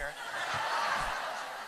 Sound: laughter

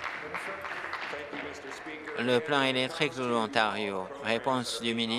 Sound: applause

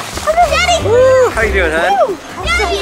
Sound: children yelling

